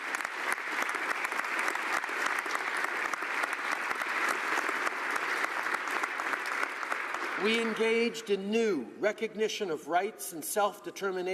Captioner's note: applause